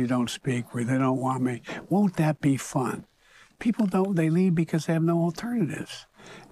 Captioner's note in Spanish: habla en ingés